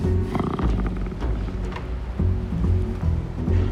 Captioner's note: sea lion grunting